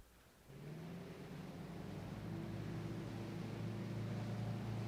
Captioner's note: boat engine revving